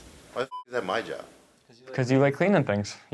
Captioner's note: beep